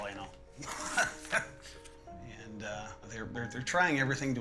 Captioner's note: laughing